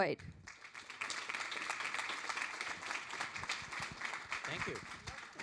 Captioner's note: audience applauds